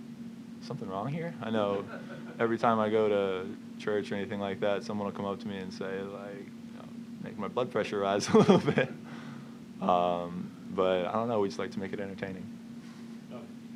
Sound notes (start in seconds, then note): 1.7 laughter; 8.3 laughs